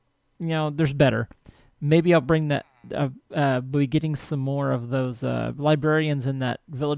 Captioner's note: distant chattering